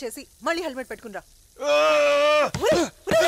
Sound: grunts

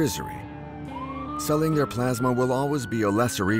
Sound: police siren wailing

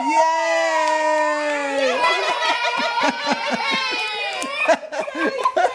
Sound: cheers and laughter

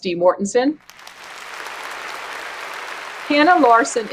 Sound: applause

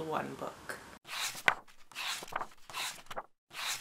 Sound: pages turning

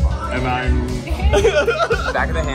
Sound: laughs

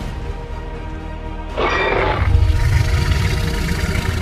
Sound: Scorpius Rex growls

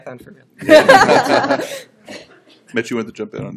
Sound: laughter

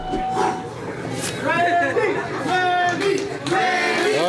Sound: crowd

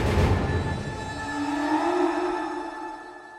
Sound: scary ethereal sound; music fades

